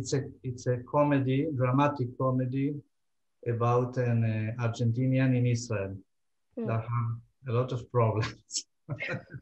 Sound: laughing

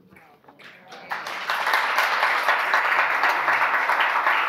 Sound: audience applause

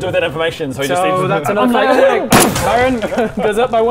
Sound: bang!

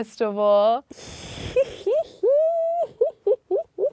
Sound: laughs

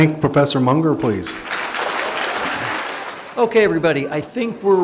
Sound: applause

